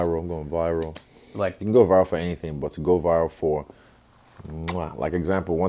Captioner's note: kiss